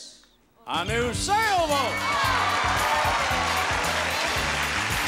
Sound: audience cheering

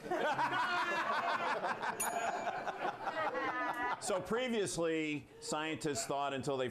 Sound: laughter; bell rings

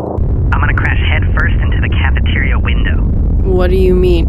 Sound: over comm

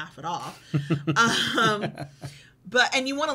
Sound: chuckles

